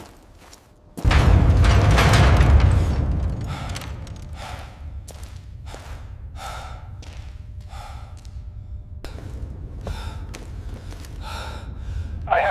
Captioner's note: sighs